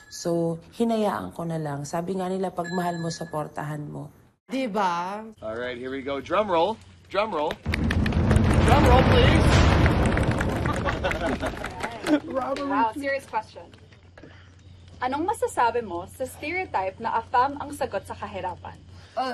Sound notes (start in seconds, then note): 7.6 drum roll; 10.6 chuckling